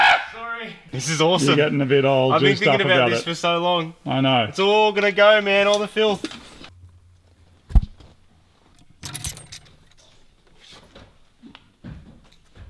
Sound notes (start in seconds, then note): 8.6 rattling